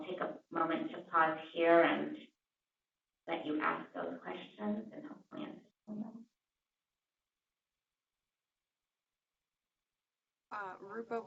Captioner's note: pause